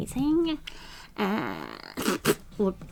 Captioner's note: mimics spitting